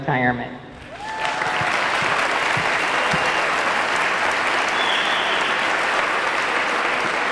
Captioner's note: audience clapping; audience cheering